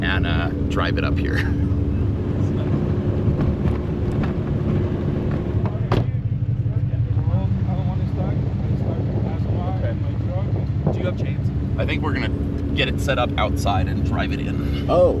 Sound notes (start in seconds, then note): 2.1 laughs; 2.9 truck rumbles; 5.8 door thuds